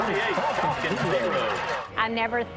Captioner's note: crowd cheering